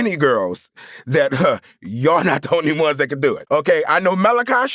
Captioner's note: scoffs